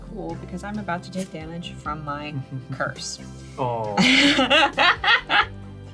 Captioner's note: laughs